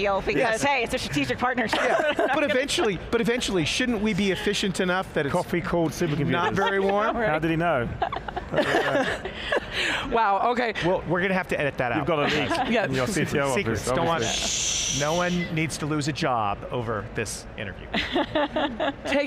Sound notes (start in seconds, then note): 8.1 all laughing loudly; 18.0 laughing gently